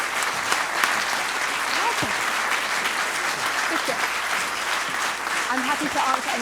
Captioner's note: applause